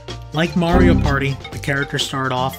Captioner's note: heavy beep